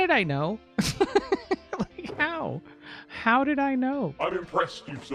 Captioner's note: laughs